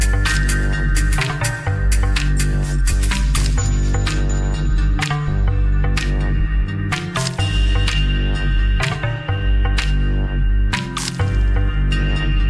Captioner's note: applause